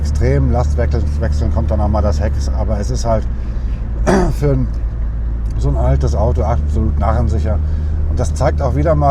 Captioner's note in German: räuspern